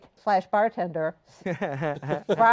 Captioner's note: laughs